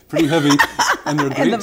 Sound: laughter

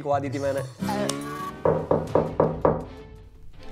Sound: knock knock

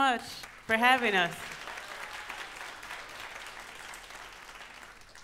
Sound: audience applauds

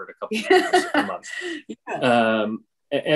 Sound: laughing

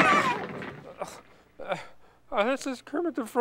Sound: groans

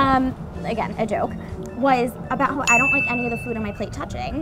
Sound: ding

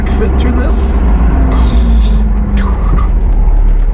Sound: woman murmurs

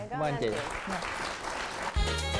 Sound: applause

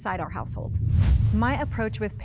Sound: air quivers

